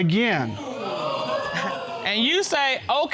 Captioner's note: audience exclaiming